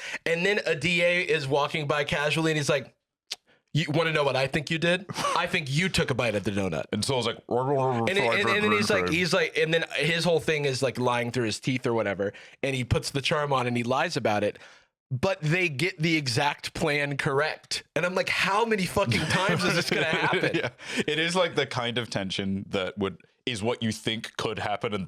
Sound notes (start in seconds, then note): 7.9 mumbling, as if his mouth is full